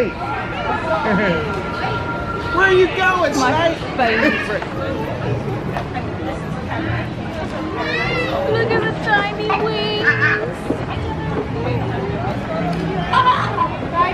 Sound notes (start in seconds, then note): 5.8 guests chattering indistinctly; 9.9 squawking